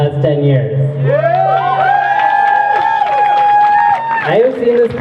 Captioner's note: crowd cheering